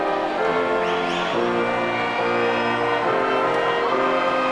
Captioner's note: audience cheering